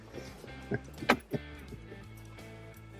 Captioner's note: chuckles